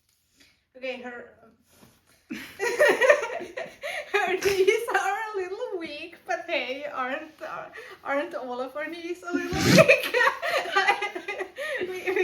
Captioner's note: laughter